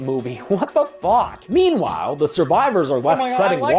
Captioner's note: laughing